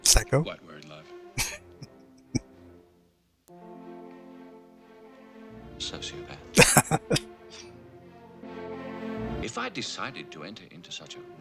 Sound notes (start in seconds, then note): 1.4 chuckling; 6.5 laughing